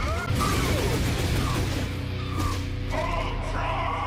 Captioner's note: explosion and gunfire sound effects